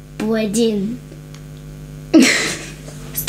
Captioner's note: laughing